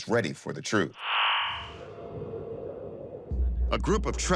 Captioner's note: wind blowing